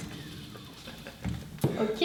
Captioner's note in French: rires